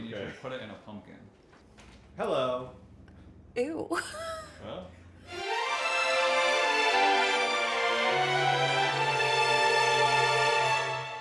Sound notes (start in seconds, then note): 3.9 laughs; 5.2 light music